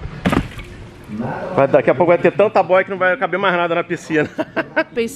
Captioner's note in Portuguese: risos